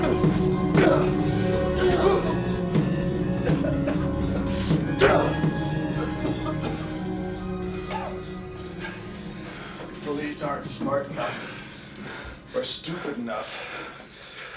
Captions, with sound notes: (Hudson grunting) (Jonah coughing) The police aren't smart enough or stupid enough